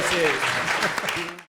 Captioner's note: audience claps